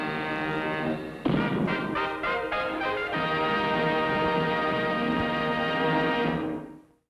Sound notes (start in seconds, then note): 1.2 dramatic music; 1.2 cannon booms